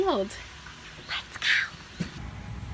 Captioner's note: whisper voice